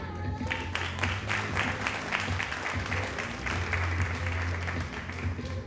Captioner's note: audience applauding